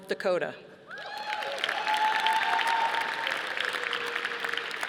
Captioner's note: audience applauding